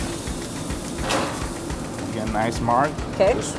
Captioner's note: steak sizzles